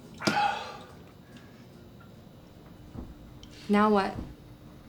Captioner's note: Milton exhales